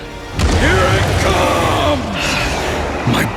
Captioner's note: estrondo